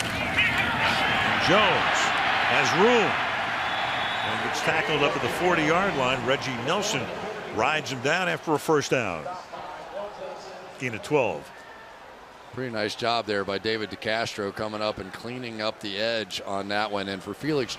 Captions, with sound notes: And Jones has room and gets tackled up to the 40-yard line. Reggie Nelson rides him down after a first down. [pa announcement] Gain of 12. Pretty nice job there by David DeCastro coming up and cleaning up the edge on that one.